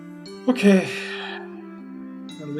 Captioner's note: sighs